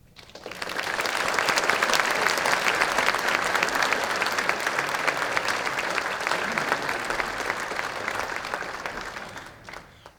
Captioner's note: applause